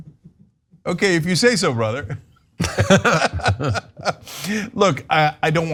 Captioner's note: laugh